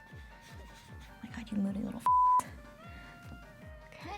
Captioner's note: beeps